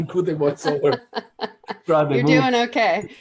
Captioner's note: laughs; chuckling